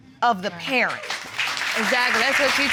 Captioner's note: audience applauds